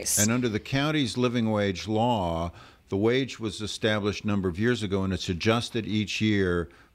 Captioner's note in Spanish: Hablando ingl\s